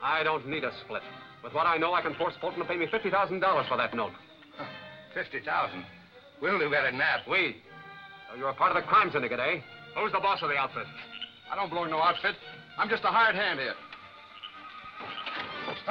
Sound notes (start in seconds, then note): 4.5 laughs